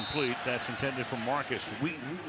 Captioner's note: whistle blowing